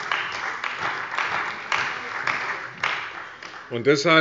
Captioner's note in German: Beifall bei der CDU und bei Abgeordneten der SPD